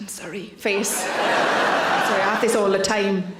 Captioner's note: audience laughs